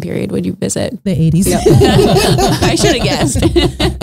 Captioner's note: all laughing